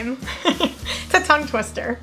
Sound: laughs

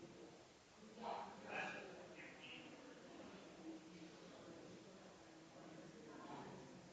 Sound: people chattering distantly continues

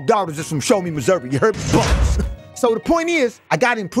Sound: bars slamming

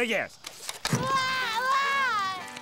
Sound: crying

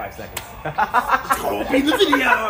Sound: laughs

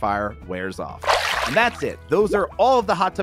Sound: water splashes

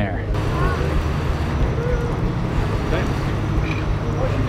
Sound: background chatter

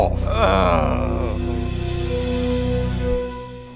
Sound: groans

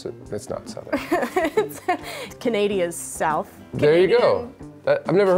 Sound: laughs

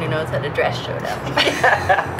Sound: laughter

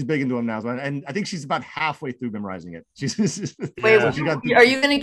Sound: laughs

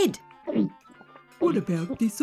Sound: gulping sound

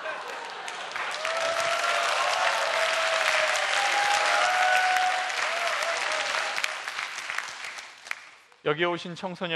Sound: applause

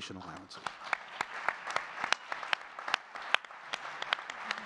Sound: audience clapping

